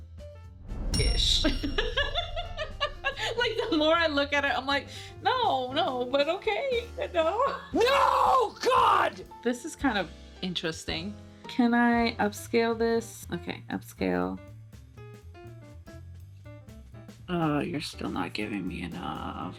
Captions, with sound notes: (laughing) Like the more I look at it, I'm like, no, no, but okay, no. No, God! This is kind of interesting. Can I upscale this? Okay, upscale. (upbeat music) Oh, you're still not giving me enough.